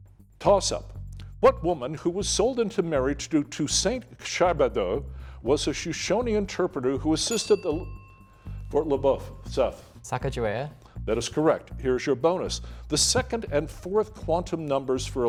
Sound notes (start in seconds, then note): 7.2 bell dinging